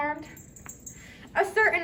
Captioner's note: Puck jingles